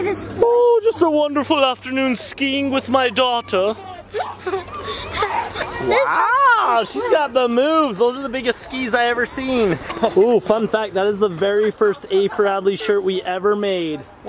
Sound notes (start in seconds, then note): 3.7 laughing